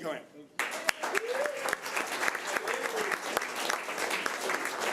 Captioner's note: audience applause